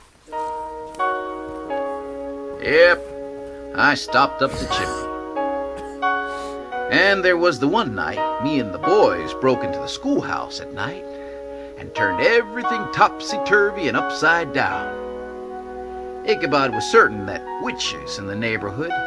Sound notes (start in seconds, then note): 4.3 Ichabod coughing